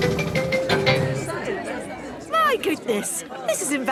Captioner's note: all murmuring